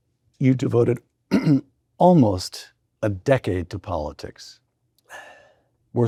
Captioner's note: clears throat